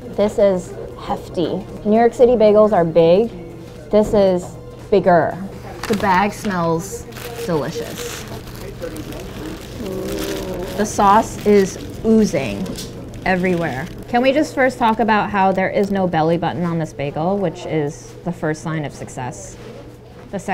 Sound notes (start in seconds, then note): 7.9 wrapper crinkling